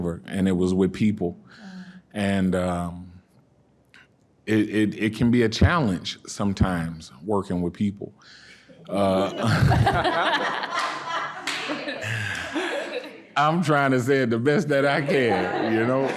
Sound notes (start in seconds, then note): 8.9 audience laughing